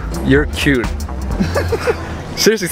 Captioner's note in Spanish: risas